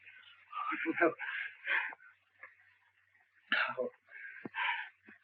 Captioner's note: Wilson gasping